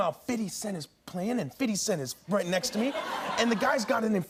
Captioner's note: laughter